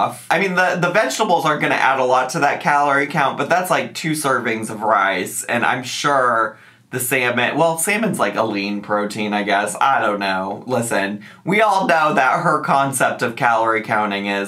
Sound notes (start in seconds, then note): none